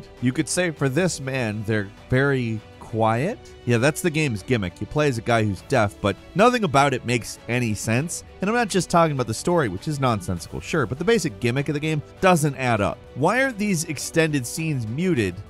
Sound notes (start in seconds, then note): none